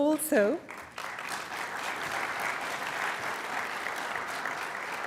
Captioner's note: applause